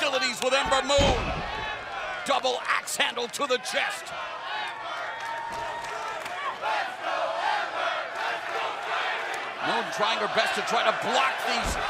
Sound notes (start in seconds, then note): 4.8 crowd cheering